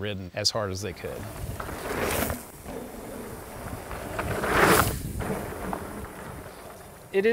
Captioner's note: bikes riding past